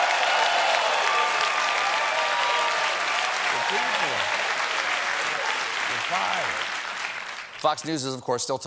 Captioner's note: cheers and applause